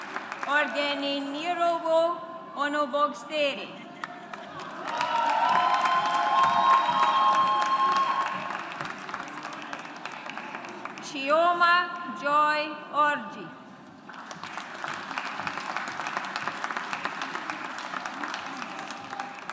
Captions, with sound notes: Oghenenyerhovwo Onogbostere. (AUDIENCE APPLAUDS) Chioma Joy Orji. (AUDIENCE APPLAUDS)